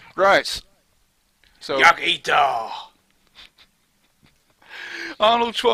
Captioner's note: laughter